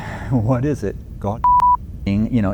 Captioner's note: beep